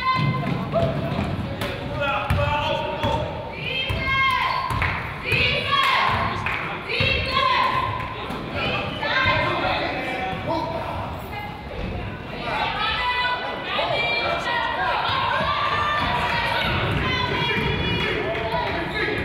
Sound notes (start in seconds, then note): 0.1 coaches yell; 4.8 claps; 6.3 claps